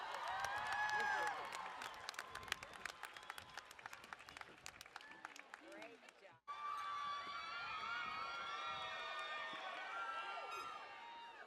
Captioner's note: cheering and Applause